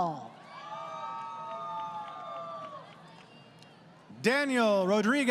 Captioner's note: crowd Cheering